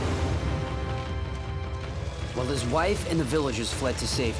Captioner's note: none